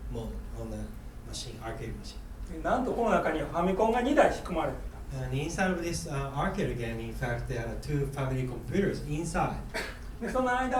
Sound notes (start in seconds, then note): 2.7 speaking in foreign language; 9.7 coughing